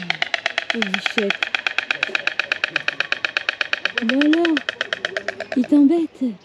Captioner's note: laughs